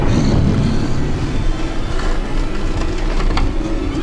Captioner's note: nails scraping